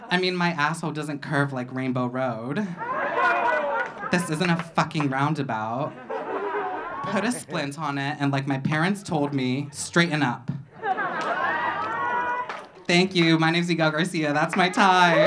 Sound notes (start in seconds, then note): 2.7 audience laughing; 10.6 audience laughing